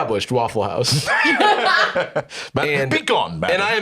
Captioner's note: laugh